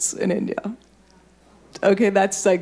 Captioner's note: audience murmuring